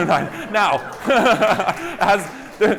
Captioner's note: laughter